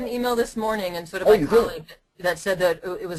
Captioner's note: voiceover